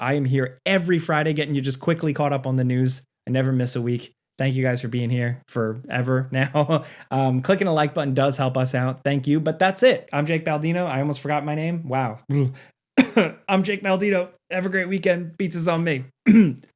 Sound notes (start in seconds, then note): 13.0 coughing; 16.2 coughing